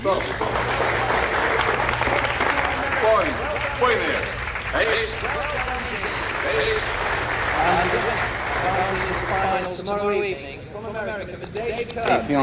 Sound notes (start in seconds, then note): 0.1 crowd applauds; 3.2 judge speaking in Japanese; 7.3 crowd applauds